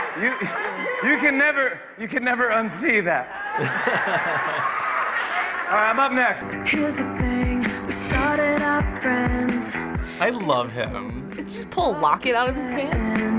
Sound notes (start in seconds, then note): 3.4 laughter